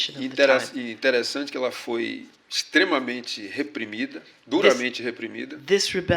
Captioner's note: speaking portuguese